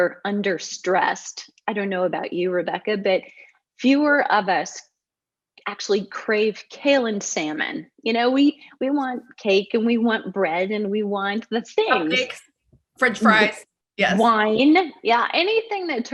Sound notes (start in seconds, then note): 14.0 laughs